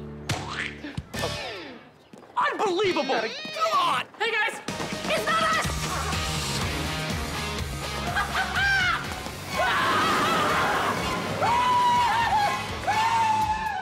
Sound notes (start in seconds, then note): 7.9 laughing; 9.5 screaming